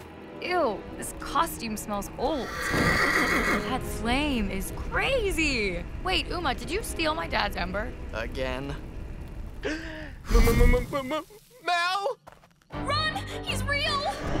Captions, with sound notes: Eww. This costume smells old. - ( neighs ) - That flame is crazy! Wait. Uma, did you steal my dad's ember? - Again? - ( gasps ) M-m-m-m-- Mal! Run! He's real!